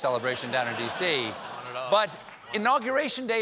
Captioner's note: laughter